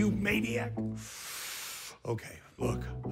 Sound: exhales sharply

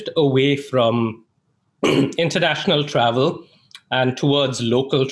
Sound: clears throat

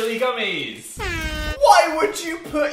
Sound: the sound of hell's flames: an airhorn

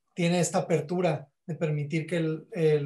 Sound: speaking Spanish

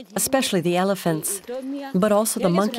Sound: speaking in foreign language

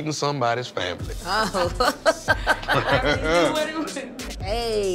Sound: laughter

